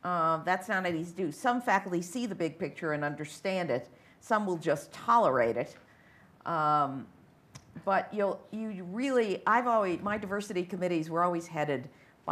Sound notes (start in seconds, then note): 7.9 stammers